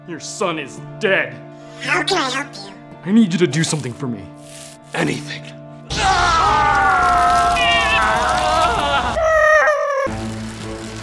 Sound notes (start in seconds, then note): 5.9 yells